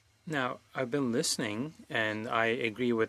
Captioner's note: speaking French